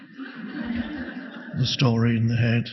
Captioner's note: audience laughing